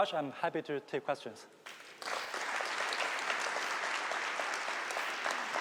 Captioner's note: applause